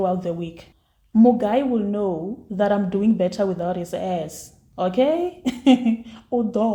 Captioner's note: laughs